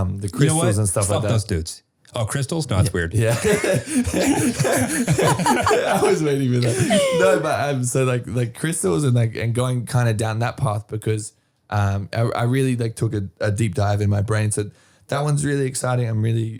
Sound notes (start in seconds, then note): 3.1 all laughing